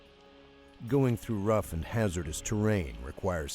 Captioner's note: voiceover